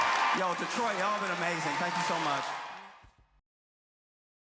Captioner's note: applause